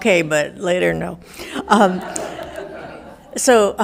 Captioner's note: audience laughing